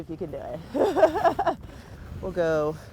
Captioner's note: laughs